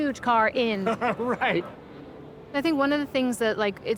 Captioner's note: laughs